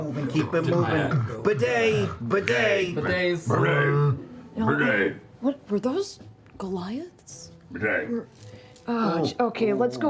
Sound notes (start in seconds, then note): 3.7 growling